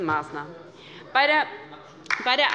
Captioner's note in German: Beifall bei der LINKEN